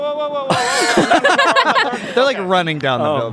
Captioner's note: all laughing